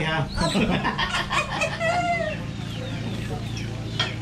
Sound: laughs

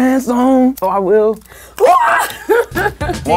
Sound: laughs

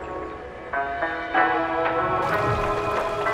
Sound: romantic vocalisation; water babbling

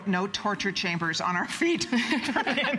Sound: laughter

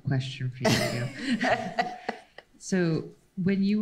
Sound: laughs

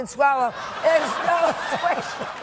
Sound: audience laughing

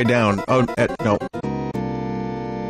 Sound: stammering

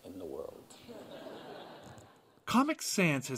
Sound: audience laughter

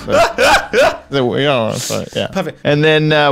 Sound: laughing

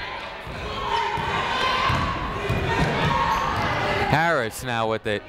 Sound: people shouting in the crowd

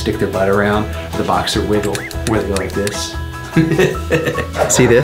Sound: laughs

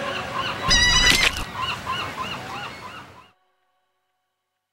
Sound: seagulls squawk

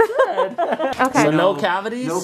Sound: laughing

